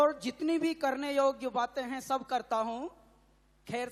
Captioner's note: speaks in Hindi - not transcribed